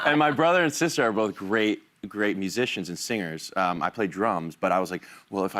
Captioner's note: laughter